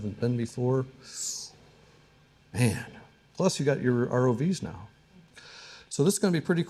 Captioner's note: breath intaking